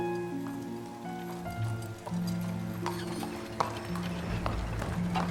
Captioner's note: horse hooves clomping